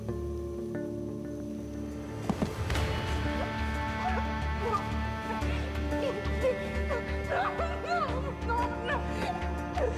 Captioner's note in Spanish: exclamaciones; sollozos